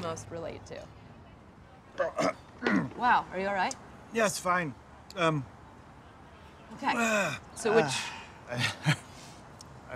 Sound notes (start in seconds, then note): 2.6 choking